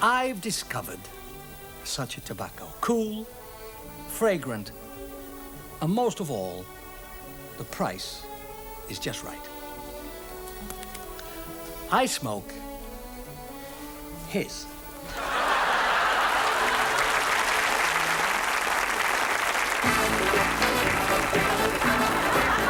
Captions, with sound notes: I've discovered such a tobacco. Cool, fragrant, and most of all, the price is just right. I smoke his. (audience applauds) (disco music)